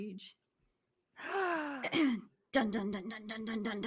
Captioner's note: gasps